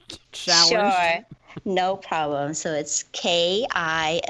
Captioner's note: laughs